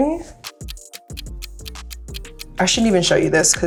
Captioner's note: ticking